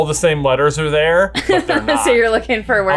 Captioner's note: chuckles